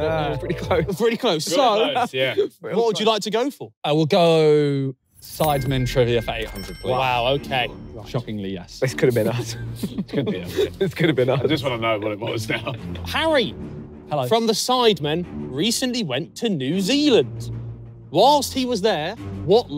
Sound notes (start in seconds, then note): 11.8 laughing